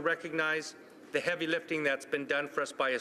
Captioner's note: speaking French